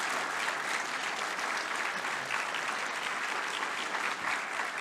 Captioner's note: audience applauding